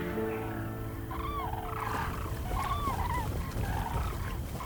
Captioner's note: birds squawking